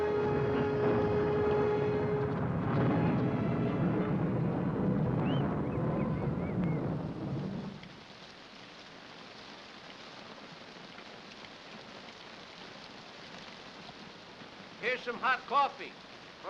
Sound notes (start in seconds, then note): 0.0 thunder rumbles; 0.3 dramatic upbeat music; 7.3 rain pattering